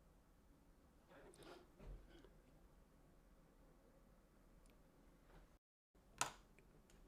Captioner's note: silence